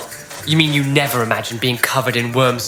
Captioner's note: sarcastic